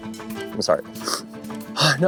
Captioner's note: sniffs